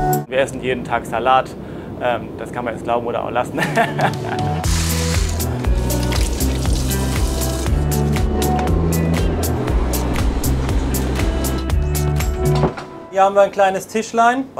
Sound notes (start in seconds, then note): 3.6 laughs